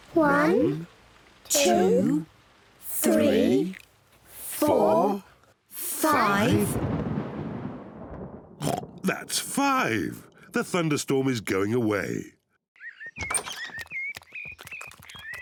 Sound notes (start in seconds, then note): 6.3 thunder rumbles; 8.6 oinks; 12.7 birds chirp